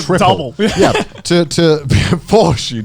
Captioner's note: chuckling